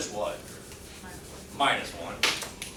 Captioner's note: woman's Voice